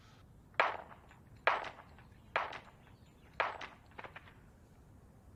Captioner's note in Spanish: Disparos